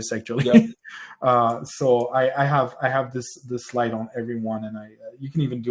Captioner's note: laughs